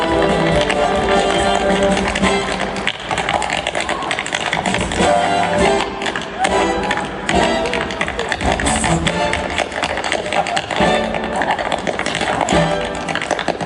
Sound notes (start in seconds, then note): 3.6 audience clapping